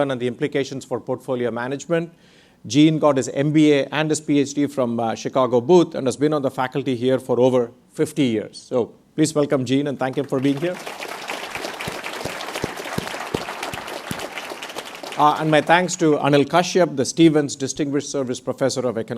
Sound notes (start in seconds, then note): 10.2 audience applauds